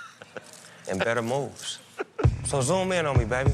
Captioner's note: laughs